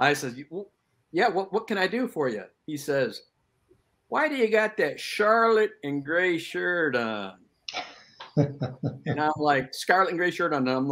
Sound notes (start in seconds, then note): 8.2 chuckling